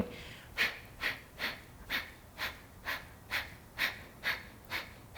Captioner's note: inhales and exhales